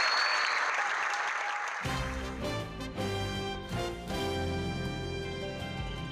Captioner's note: applause